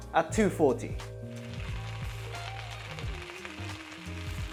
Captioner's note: sizzling sound!